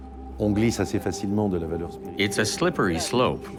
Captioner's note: speaks in foreign language